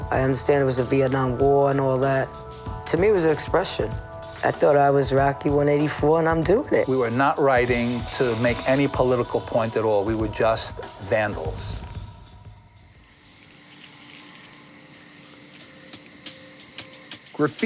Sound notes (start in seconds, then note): 13.1 spray paint fizzing; 15.6 smooth rhythmic music